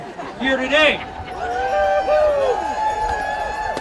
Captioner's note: audience cheering